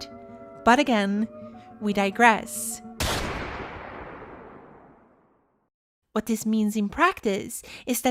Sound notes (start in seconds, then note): 3.0 gunshot